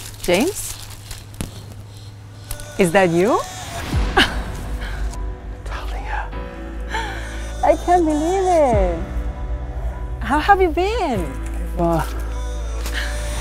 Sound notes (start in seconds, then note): 3.7 emotional music plays; 4.1 Dahlia laughs